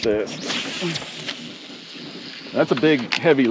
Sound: reel spinning; rod whipping

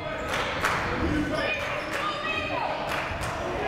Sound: shouting

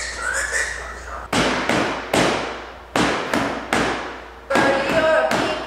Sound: more smacking

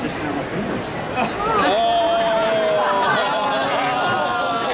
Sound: audience laughing

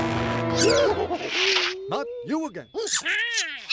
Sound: chattering

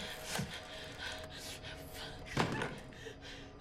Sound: whispers

